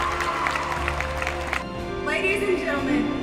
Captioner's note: cheering